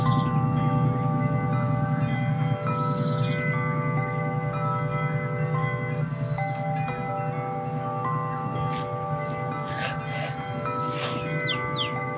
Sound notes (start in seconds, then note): 8.4 sand sounds